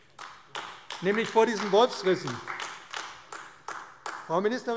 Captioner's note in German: Beifall AfD